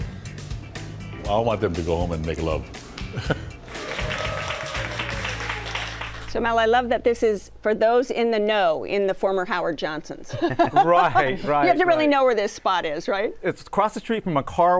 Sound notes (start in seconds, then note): 3.6 applause